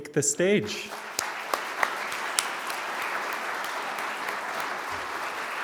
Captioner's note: attendees clapping